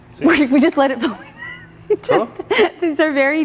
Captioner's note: laughs